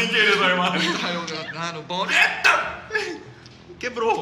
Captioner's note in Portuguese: cantarolando